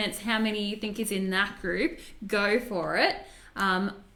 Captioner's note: none